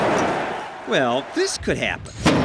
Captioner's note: grenade echoes